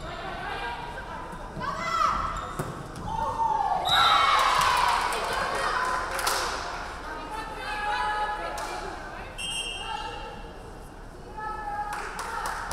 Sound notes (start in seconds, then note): 3.7 crowd cheering; 3.8 referee whistling; 9.4 referee whistling